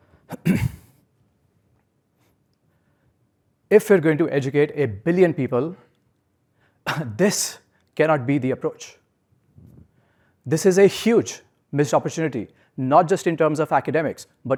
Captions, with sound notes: [COUGH] If you're going to educate a billion people, [COUGH] this cannot be the approach. This is a huge missed opportunity, not just in terms of academics,